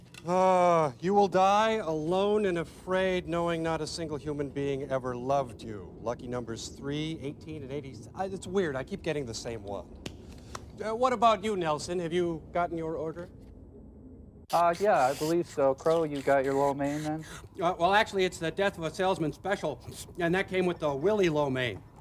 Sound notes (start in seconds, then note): 14.6 slurping